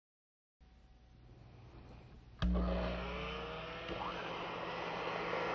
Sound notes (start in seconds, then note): 2.4 mixer whirring; 2.4 blender whirring